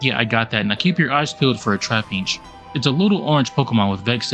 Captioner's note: none